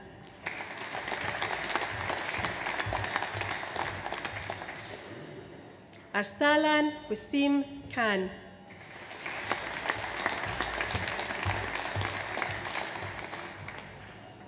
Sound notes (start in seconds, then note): 0.2 audience applauds; 8.7 audience applauds